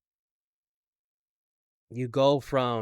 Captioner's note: none